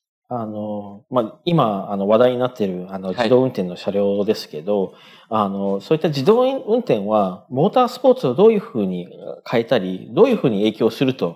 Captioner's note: speaking japanese